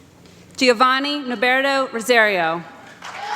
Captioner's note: applause